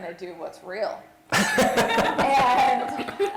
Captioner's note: laughter